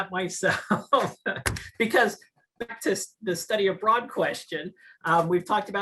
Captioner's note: laugh